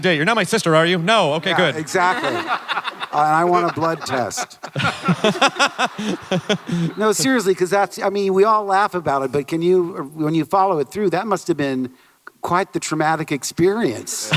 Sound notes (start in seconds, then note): 4.6 laughter